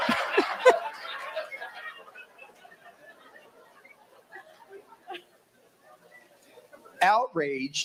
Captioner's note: laughter